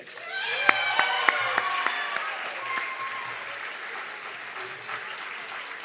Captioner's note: audience clapping and cheering